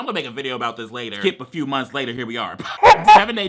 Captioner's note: laughs